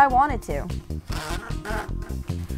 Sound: rubber bands squeaking

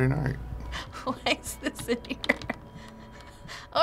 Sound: chuckling

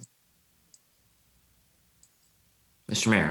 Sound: mouse clicks

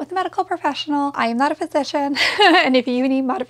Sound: giggles

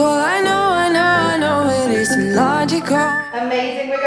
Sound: beeping

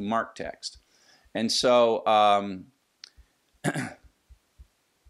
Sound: cough

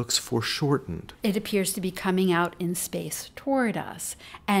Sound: voiceover

